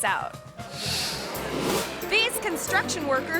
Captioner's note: audience laughing